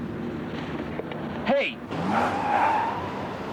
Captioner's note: skidding